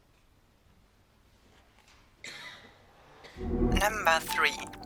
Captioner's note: silence; electronic Voice